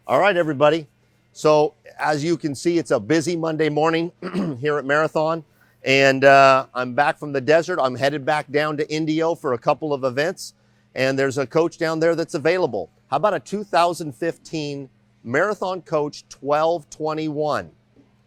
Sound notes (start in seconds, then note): 4.2 clears throat